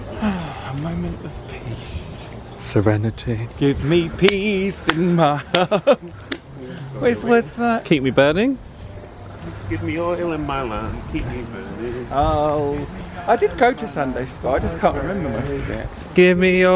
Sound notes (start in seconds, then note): 0.1 sighs